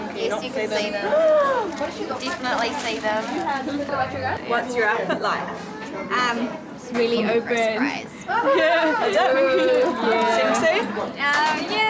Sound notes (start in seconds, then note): 8.5 Synthia laughs